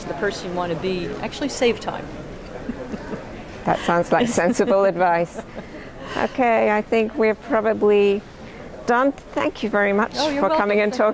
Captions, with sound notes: you want to be, actually save time. (laughing) - That sounds like sensible advice. Okay, I think we're probably done. Thank you very much-- - Oh, you're welcome.